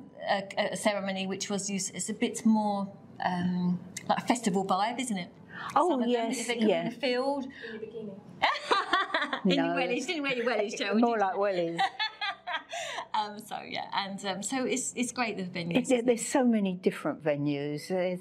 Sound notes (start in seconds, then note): 8.5 laughs